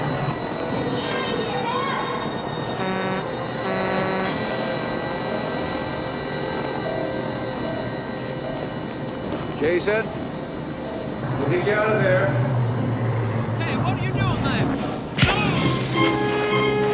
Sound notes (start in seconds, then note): 2.8 truck horn blows